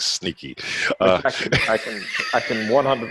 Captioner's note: laughing